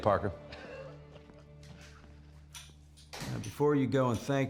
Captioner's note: chuckling